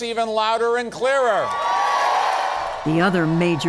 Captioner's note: cheering and applause